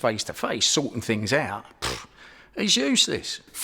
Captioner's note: scoffs